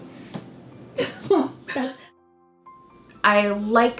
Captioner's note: sobs